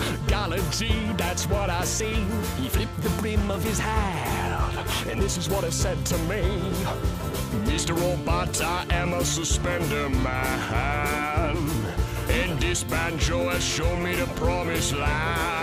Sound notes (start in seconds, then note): none